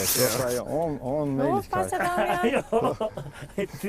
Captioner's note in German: Lachend